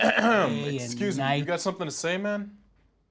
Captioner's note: clears throat